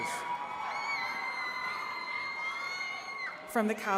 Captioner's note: attendees cheering and clapping